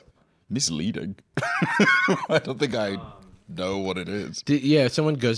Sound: laughs

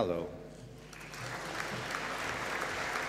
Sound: applause

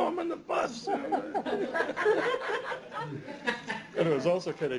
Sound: laughter

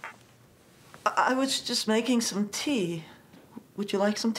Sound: none

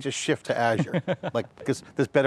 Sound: laughs

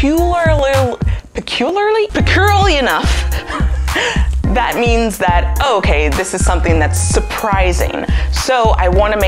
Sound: laughs

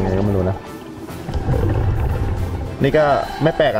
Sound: water flowing

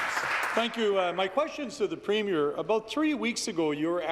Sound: applause

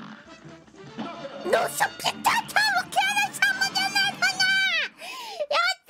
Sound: happy Gamer Girl Noises!

